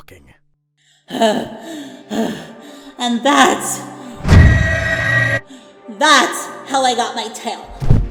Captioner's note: sighs; panting; wails